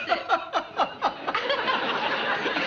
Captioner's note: laughter